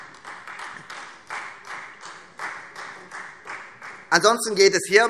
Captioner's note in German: Beifall Freie Demokraten und AfD